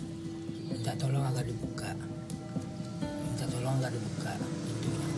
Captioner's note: non-english speech